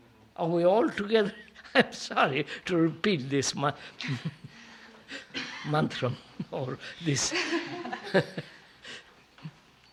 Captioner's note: laughs